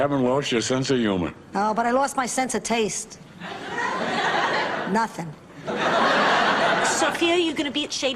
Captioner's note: laughs